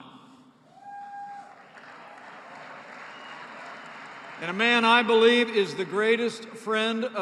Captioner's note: applause